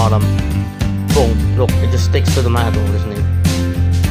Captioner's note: bonk